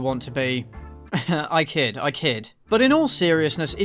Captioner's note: laugh